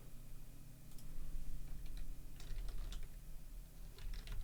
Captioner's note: keyboard typing